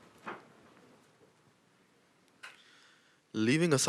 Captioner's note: shuffling